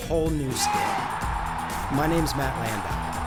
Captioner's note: crowd cheering